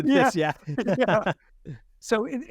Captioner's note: both laughing